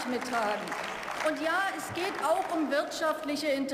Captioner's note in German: Beifall